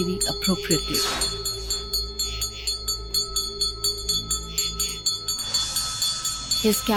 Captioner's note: bells jingling